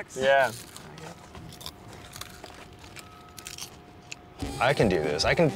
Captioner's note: chips crunching